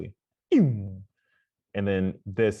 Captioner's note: makes quick, falling vocal sound